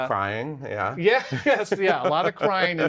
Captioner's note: both laugh